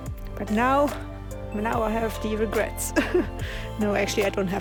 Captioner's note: laughs